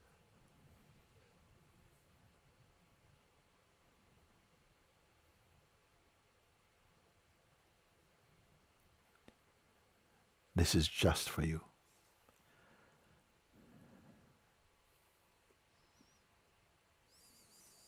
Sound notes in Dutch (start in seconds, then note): 1.0 stilte